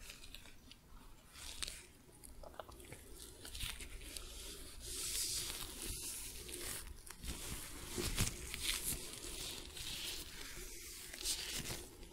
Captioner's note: sticky sounds, rubbing